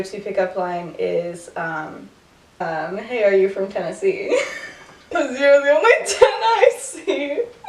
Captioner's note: laughter